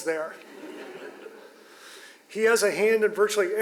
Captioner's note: audience laughs